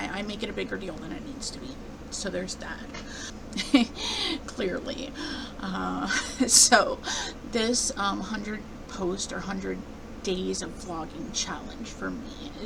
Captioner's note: laughing